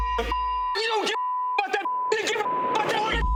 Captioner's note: beep